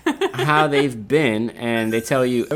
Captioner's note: laughing